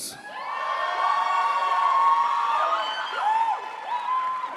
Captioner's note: crowd applauds